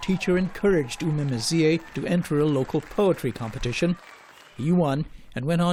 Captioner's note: applause